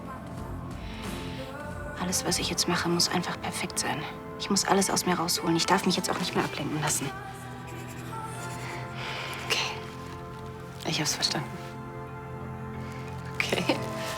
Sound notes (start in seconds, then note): 9.7 laughs